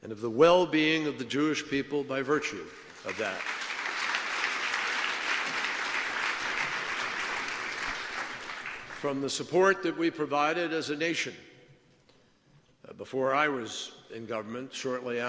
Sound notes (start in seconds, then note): 7.0 applause